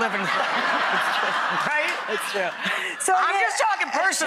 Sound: audience laughing

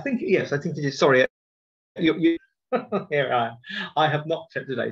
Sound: laughs

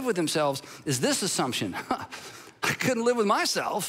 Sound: chuckles

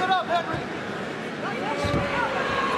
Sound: none

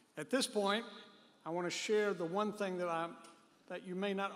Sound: none

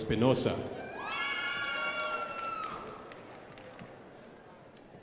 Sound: crowd applauding

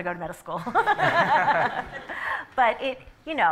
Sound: laughter

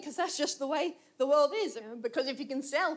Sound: none

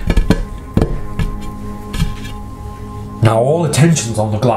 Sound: knocking on glass

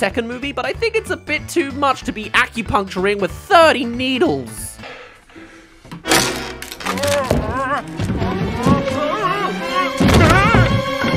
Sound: grip* *Fall

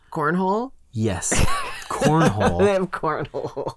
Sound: laughing

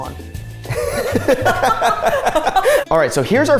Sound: both laughing

